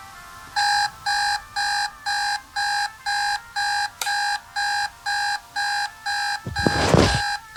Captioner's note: beeping